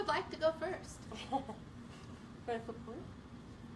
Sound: quiet laughter

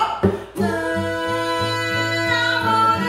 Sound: building vocalizations

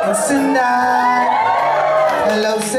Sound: cheering

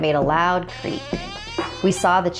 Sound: creaking

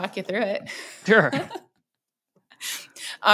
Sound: laughs

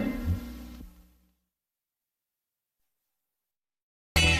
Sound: silence

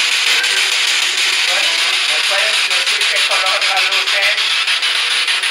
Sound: speaking in Spanish

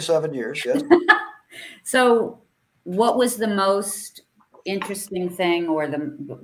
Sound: laughs

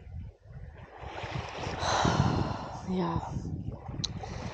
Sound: sighs & Waves

